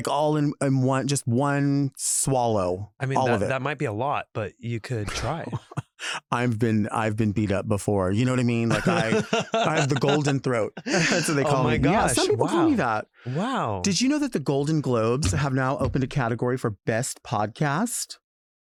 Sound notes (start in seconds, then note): 6.1 chuckles; 8.6 laughs